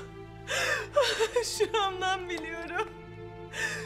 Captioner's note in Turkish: Ağlama sesi